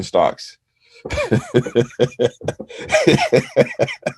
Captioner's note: laughs